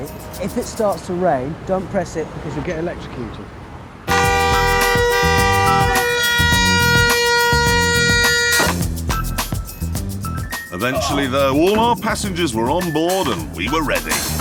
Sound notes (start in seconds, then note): 4.0 horn continues; 8.7 horn stops